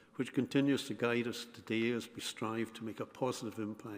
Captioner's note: none